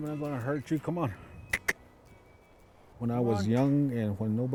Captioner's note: clicks teeth